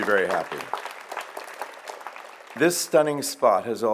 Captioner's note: audience applauds